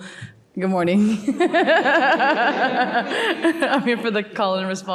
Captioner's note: laughs